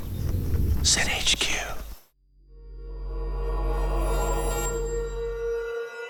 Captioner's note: whispers